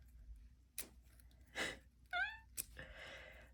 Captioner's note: match striking noises; human squeaking